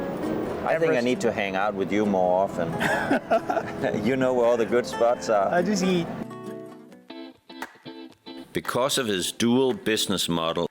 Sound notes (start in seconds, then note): 2.7 laughing; 2.8 laughs; 7.1 upbeat music